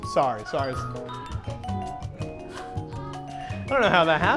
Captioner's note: laughter